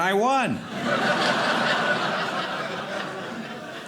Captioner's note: audience laughing